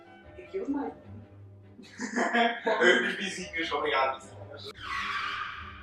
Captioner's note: laughs